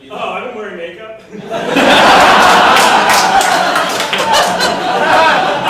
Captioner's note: audience lauging